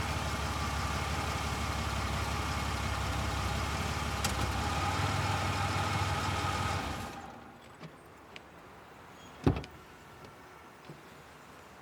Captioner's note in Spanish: Sonido de motor